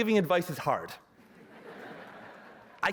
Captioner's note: laughter